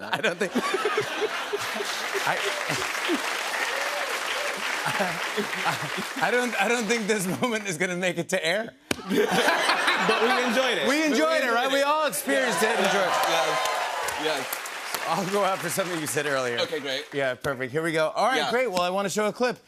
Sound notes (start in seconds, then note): 0.0 laughter; 2.7 cheers and applause; 9.0 laughter; 11.5 cheers and applause